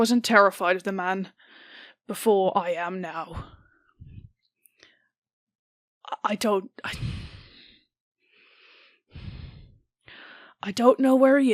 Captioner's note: sighs